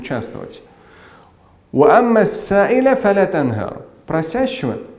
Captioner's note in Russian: Говорит на арабском